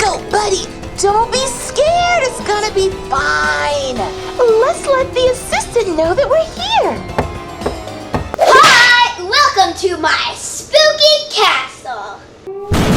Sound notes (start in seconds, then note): 6.9 knock